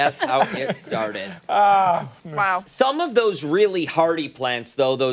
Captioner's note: laughter